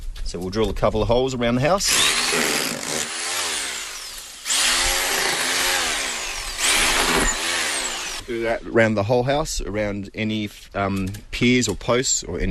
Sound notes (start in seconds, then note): 1.8 drill whirring